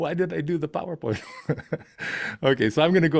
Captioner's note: laughs